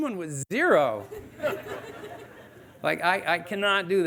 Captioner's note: audience laughing